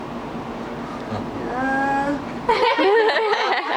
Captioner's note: laughter